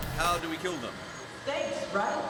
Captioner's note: voiceover